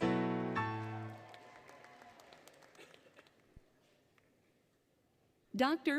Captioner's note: applause, Cheering, Music; applause, Cheering